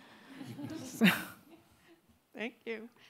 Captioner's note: audience laughing